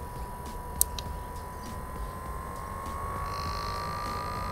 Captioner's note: fan buzzing